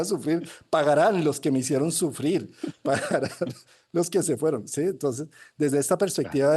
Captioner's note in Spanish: risas